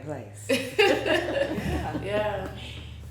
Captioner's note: all laughing